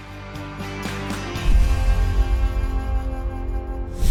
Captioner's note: logo thuds